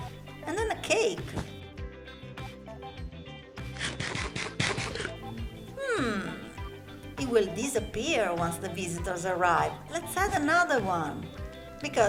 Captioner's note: munches